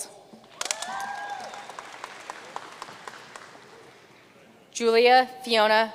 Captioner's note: audience cheering and applauding